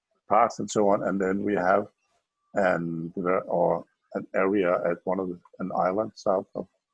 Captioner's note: murmurs